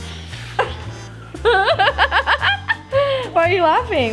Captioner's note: laughs